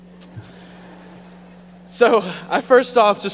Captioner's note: audience laughing